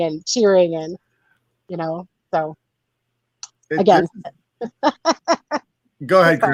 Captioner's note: laughs